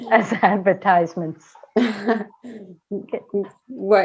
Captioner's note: laughter